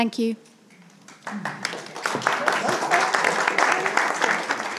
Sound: attendees applauding

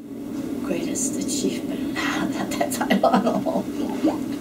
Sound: laughs

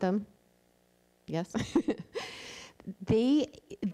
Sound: laughs

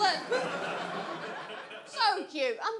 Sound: audience laughs

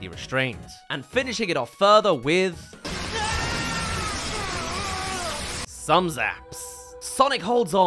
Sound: zaps

